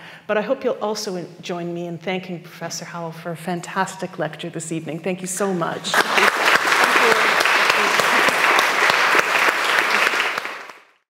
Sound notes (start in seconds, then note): 5.8 audience clapping